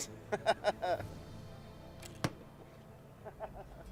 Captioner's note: chuckling